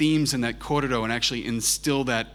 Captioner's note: speaks in foreign language